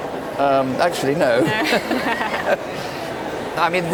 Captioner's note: both laugh